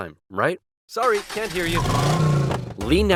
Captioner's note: car engine revving